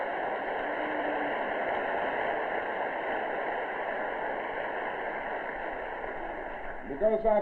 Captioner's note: clapping